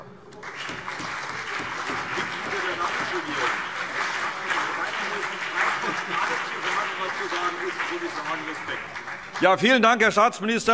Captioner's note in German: Beifall CDU und BÜNDNIS 90/DIE GRÜNEN